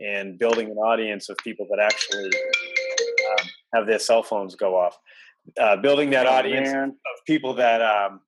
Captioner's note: cell phones go off